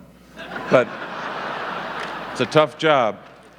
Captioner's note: audience laughing